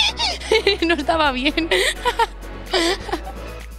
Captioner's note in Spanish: risas; risas